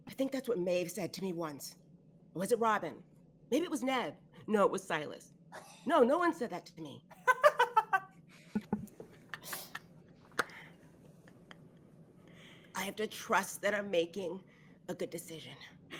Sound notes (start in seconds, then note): 7.2 all laughing